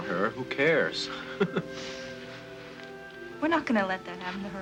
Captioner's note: Casey chuckles